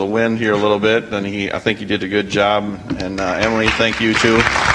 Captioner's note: audience applauds